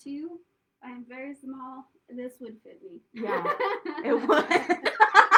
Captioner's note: laughter